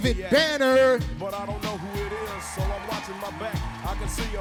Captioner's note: audience applauding